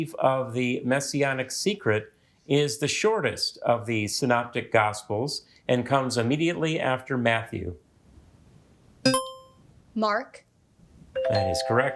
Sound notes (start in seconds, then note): 9.1 buzzer chimes; 11.2 musical notes chimes